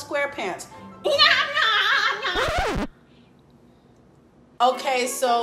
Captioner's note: mimics SpongeBob